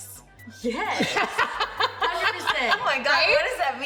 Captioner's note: laughs